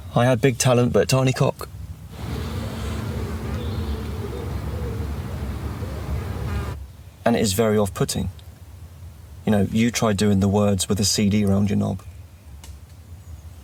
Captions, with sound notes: I had big talent but tiny cock. (outside noise and birds tweeting) And it is very off-putting. You know, you try doing the words, with a CD round your knob.